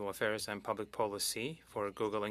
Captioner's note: speaking French